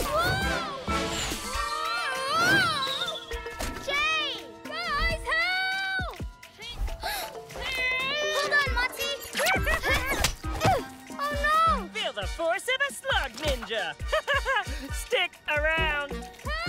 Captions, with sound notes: Whoa! Whoa! - Jay! - Guys, help! - (Gasps) - (Straining) - Hold on, Motsie! - (Chuckles) - Oh, no! - Feel the force of a Slug Ninja! Ha, ha, ha! Stick around!